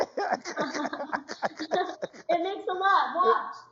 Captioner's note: laughs